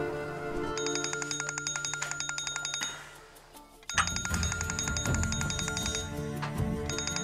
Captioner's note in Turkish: Telefon çalar